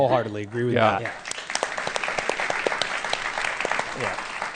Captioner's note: applause